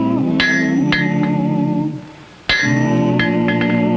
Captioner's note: hammer clanking